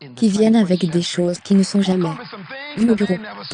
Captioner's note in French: applaudissements de l'assistance